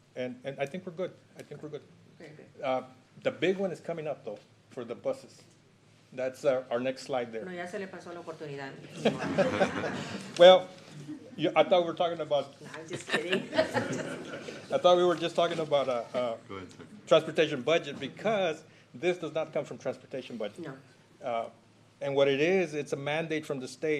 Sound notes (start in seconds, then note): 8.9 laughter